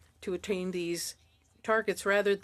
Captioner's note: speaking French